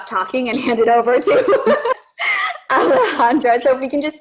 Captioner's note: laughter